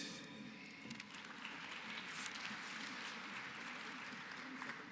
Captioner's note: applause